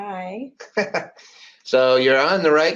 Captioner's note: laughs